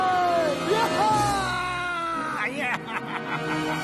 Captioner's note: evil laughter